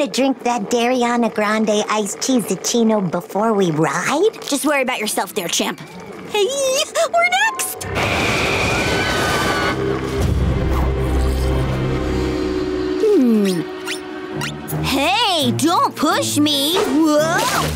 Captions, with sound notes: Dairiana Grande iced tea-zechuino before we ride? Just worry about yourself there, champ. Hey, we're next! [screaming] Hmm. Hey, don't push me! Whoa!